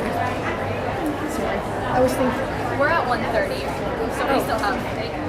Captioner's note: background talking